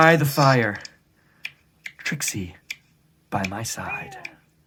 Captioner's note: fire crackles; cat meows